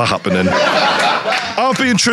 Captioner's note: audience laughing